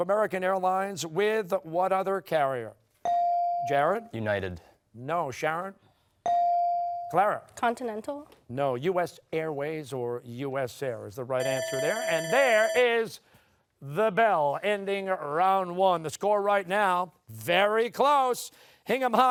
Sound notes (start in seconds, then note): 11.4 timer sounding